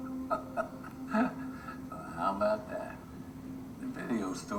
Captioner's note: laughs